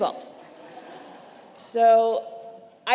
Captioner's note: congregation laughing